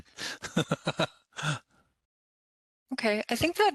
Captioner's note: laughs